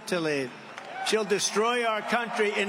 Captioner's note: cheering